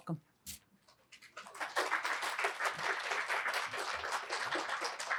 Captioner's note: applause